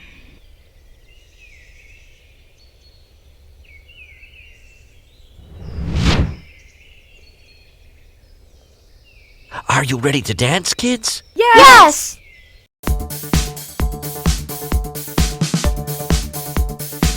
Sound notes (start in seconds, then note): 0.2 birds chirping; 5.4 wind whooshing; 13.0 lively electronic dance music